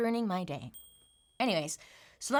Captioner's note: bell dings